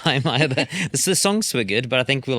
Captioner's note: laughing